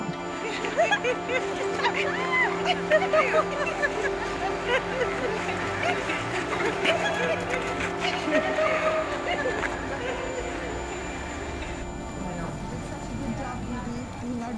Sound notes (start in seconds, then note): 0.7 sisters laughing - and giggling; 7.3 laughter echoing